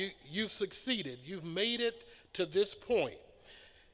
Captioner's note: none